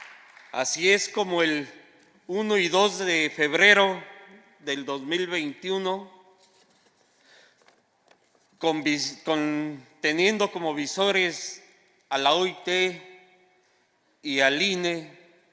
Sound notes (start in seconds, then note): 0.0 applause; 3.5 speaking spanish